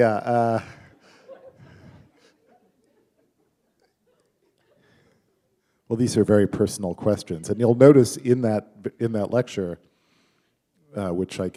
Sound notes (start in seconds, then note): 0.3 laughter; 3.2 chuckle